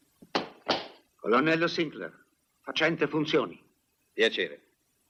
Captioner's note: stamps floor